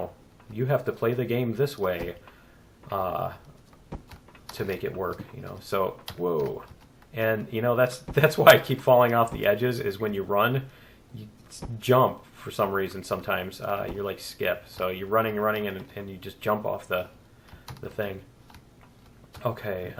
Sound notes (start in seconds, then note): 9.3 laughs